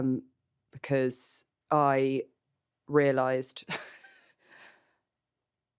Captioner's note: laughs